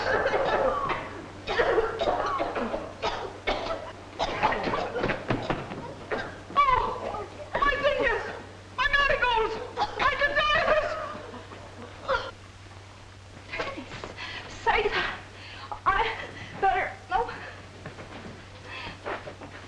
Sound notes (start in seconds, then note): 1.4 group coughing; 12.2 Minerva scoffs